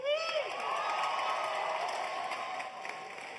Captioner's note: cheers and applause